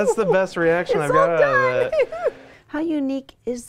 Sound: woman laughing

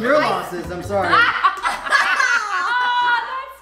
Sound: laughing

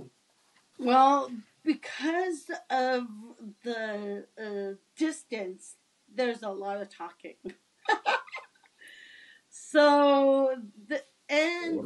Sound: laughs

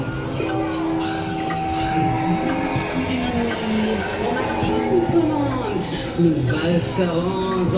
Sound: clock ticking; crow caws

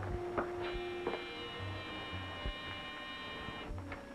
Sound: doorbell buzzing

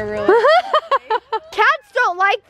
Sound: laughing

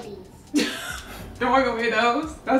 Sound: laughs

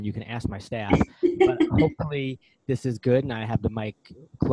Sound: laughs

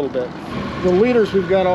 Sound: boat engine idling

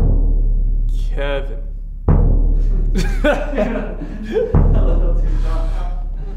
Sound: laughing

